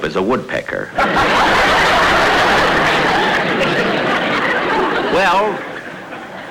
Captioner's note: audience Laughing